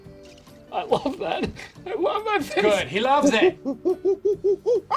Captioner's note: crying